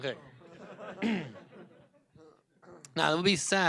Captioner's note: laughter